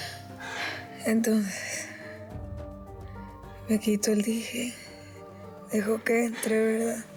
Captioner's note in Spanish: exhala